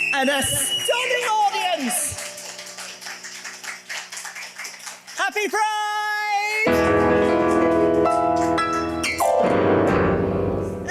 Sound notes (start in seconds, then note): 0.0 audience clapping; 2.5 audience clapping